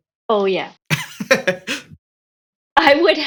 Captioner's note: laughing